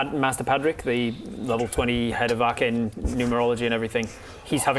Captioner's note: naughty kids whispering